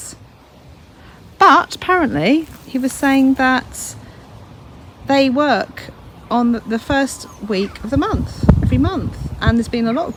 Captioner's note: laughs